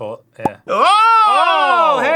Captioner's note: 🍾 pop 🍾